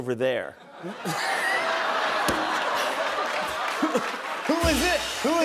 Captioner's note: laughter